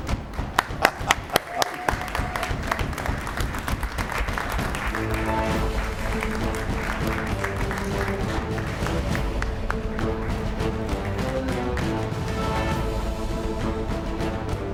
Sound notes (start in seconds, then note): 0.2 applause